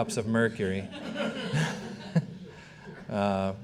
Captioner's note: all laughing